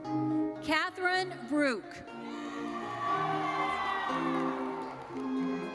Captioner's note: audience cheers